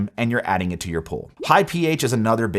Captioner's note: graphics pop